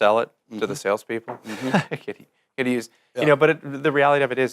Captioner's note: laughs